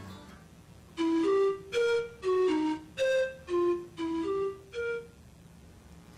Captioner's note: low electronic beeping; cheery electronic beeping